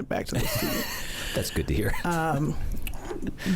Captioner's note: laughs